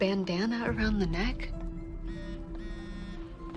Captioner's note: phone vibrating